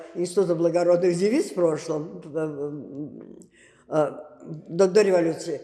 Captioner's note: mumbling